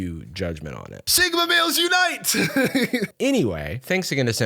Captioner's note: chuckles